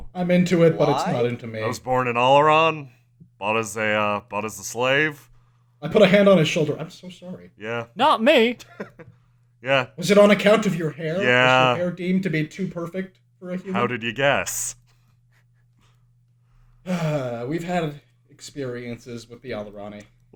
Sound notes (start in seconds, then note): 16.8 sighs